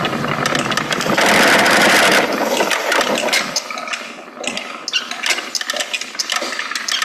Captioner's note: spinning wheel continues trundling and creaking